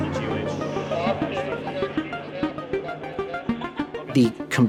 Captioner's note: radio muffles